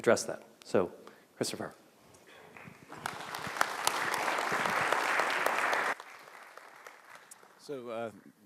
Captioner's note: clapping